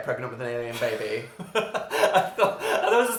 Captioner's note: laughs